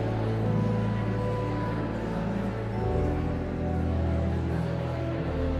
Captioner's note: enigmatic organ music continues; audience chattering continues